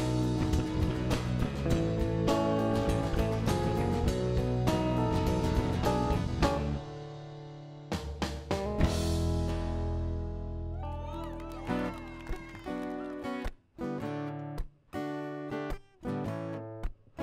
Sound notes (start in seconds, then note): 10.8 audience clapping; 14.2 blues music